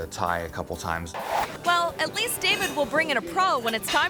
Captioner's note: static scratches